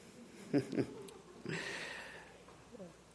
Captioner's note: chuckling